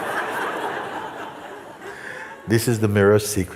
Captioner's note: Lachen